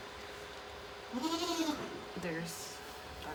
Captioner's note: Maybel bleating